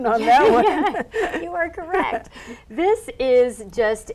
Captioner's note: laughing